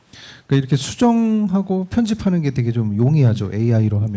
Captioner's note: speaking korean